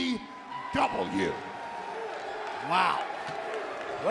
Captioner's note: audience cheering